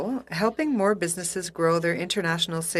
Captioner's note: speaking FRENCH